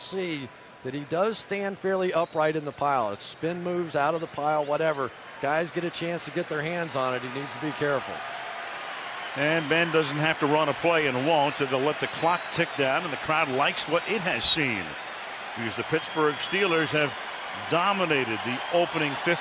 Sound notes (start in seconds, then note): 8.9 applause